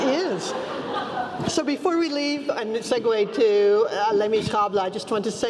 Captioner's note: laugh